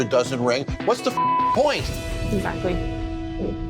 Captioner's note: beep